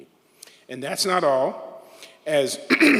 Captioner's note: throat clears